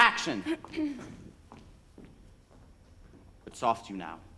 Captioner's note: Ophelia clears throat